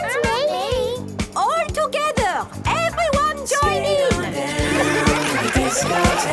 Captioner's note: laughter